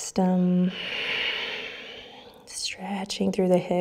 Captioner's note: deep breathing